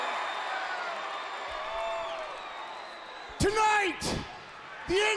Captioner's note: crowd cheering; crowd chatter